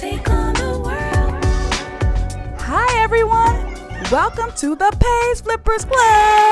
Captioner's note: theme song fades out to sound of kids talking, running around